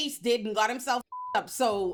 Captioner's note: beep